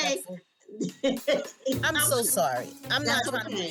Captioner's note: laughs